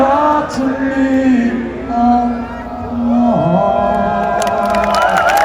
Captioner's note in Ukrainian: оплески